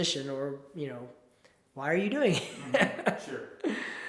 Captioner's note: chuckles